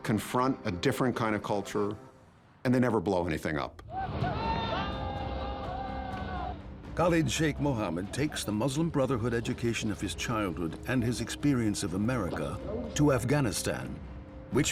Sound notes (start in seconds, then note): 3.9 men shouting